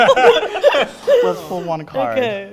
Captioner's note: everyone laughing